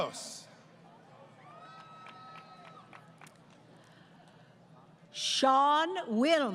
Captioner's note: applause